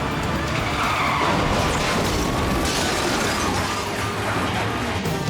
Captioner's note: car crashing